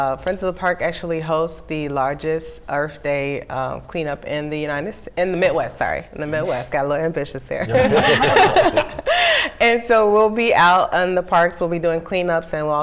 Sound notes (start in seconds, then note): 7.6 laughing